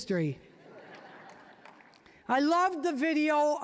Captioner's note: audience laughing